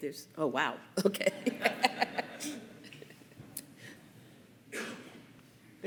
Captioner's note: laughter